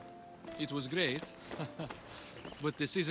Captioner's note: laughs